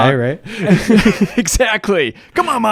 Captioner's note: both laugh